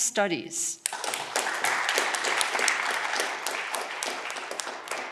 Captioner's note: audience clapping